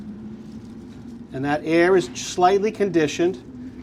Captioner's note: fan whirring